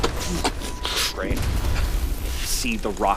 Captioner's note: ballista hitting the rock